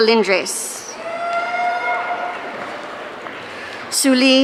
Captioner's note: audience cheering